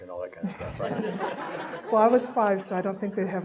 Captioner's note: audience laughing